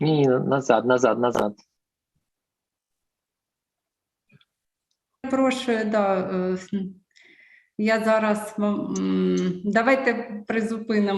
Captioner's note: foreign Language